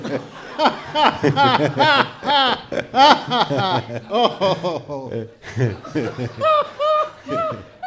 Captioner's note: boisterous laughter